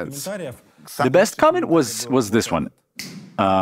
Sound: snaps fingers

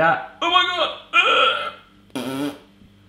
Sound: imitates fart

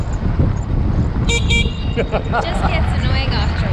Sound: horn beeps

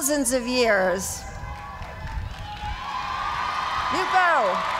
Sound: cheers and applause

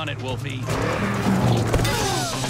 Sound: engine revving

